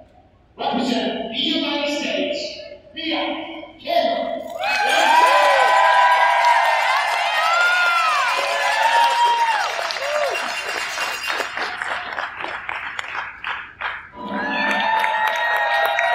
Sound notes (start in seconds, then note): 4.5 loud cheers and applause from crowd